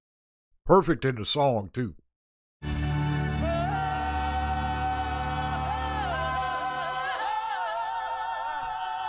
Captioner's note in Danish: Bifald